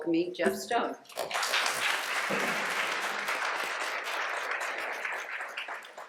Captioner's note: applause